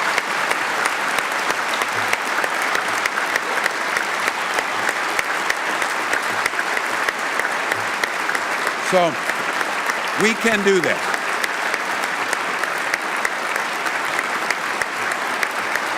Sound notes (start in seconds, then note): 1.7 applause